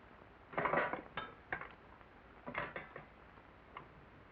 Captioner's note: dishes clang